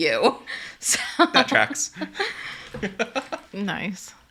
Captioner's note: laughs